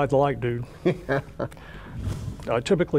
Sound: laughs

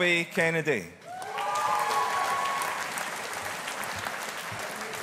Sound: audience applauding

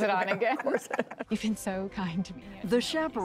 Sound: laughter

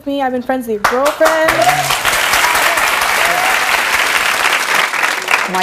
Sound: audience cheering and clapping

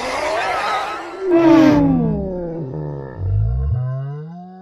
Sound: painful scream

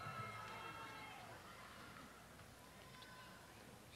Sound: cheers and applause

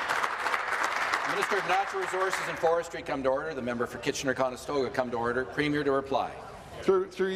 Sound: applause

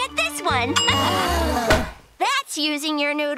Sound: groaning

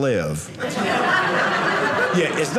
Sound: audience laughing

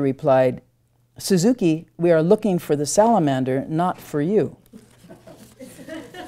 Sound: audience chuckles

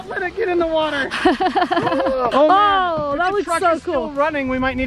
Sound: laughing

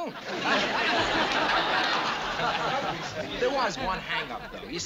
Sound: laughter

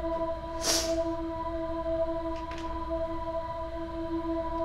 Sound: sniffling

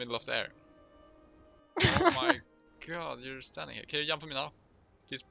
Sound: haha

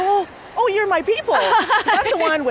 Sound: laughs

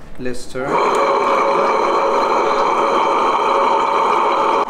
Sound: melanger whirring

